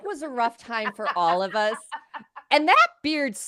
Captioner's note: laughing